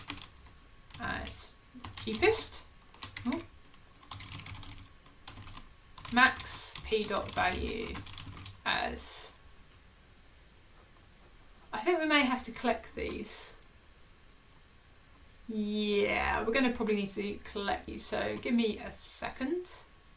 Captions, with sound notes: as Cheapest, (keyboard clicking) max p.value as, (keyboard clicking) I think we may have to collect these. Yeah, we're gonna probably need to collect these so give me a second.